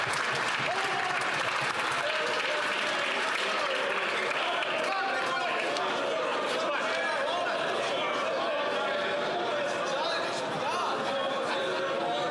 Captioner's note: some Applause